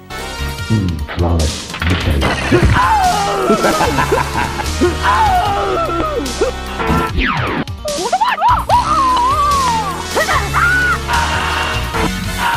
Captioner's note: More Mortal Kombat 2 sounds